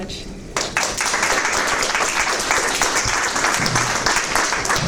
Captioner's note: audience clapping